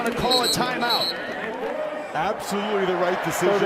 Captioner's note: cheers and applause